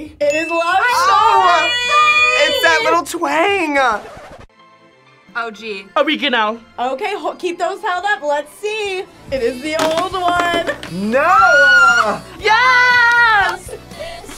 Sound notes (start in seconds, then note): 3.4 record scratches; 11.0 screams